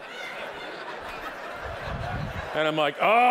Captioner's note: audience laughing